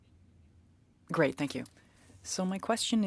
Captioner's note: speaking French